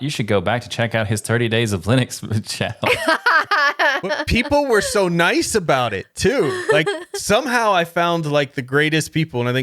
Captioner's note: laughing